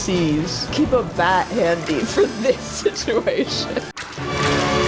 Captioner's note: laughing